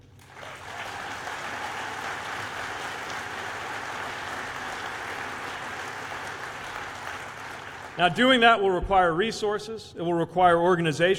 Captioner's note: applause